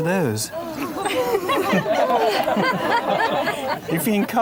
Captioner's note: crowd laughs